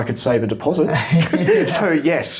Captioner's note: laughs